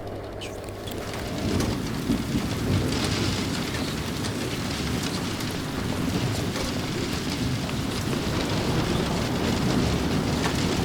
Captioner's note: noise of rain, gale, and whispers of prayer